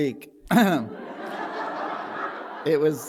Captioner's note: laughter